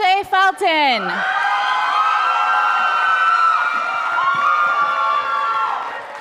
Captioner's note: audience cheering and applauding